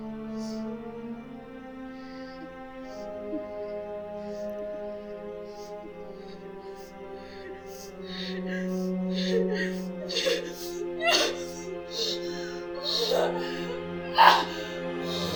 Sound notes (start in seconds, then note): 8.0 Linda sobbing; 8.0 soft orchestral music